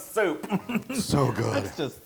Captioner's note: laugh